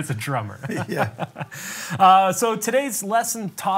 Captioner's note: laughs